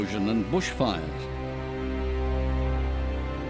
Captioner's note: cicadas